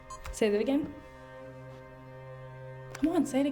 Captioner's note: camera beeps